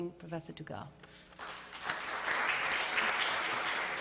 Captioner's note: applause